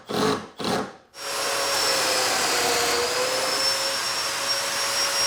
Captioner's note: equipment whirring